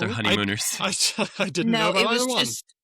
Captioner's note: laughs